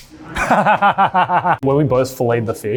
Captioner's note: laughs